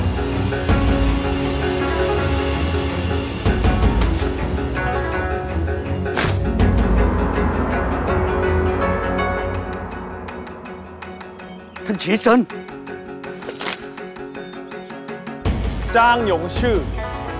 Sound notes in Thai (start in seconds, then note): 6.1 เสียงพัดไม้; 13.4 เสียงพัดไม้